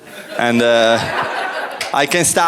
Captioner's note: laughter